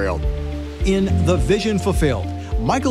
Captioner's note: male Voice